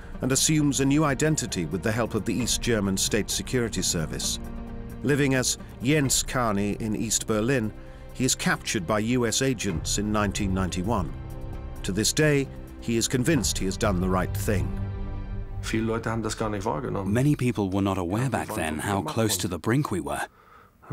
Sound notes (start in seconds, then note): 15.6 speaking German